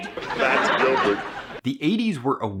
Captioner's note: audience laughing